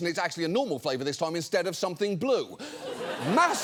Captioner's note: audience laughs